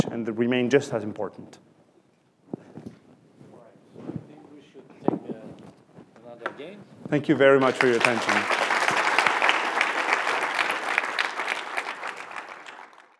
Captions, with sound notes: and remain just as important. All right. I think we should thank Fernando again. Thank you very much for your attention. [APPLAUSE]